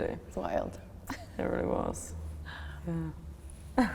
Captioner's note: laughs; chuckles